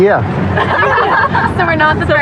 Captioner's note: laughghteter